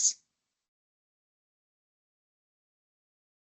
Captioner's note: silence